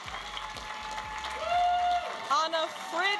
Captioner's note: audience applauding and cheering